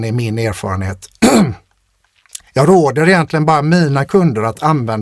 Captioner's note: clears throat